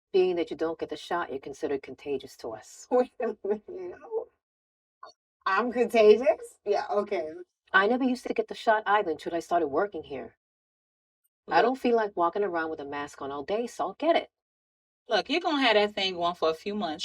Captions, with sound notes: - Being that you don't get the shot, you're considered contagious to us. - Wait a minute. (laughing) I'm contagious? Yeah, okay. - I never used to get the shot, either, until I started working here. I don't feel like walking around with a mask on all day so I'll get it. - Look, you gonna have that thing on for a few months.